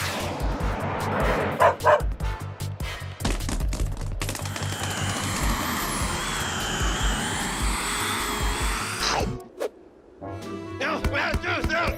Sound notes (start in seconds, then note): 1.6 dog barks; 8.3 chomp; 10.2 grumbling